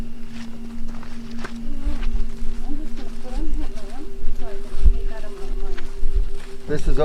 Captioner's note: footsteps crunching; background chattering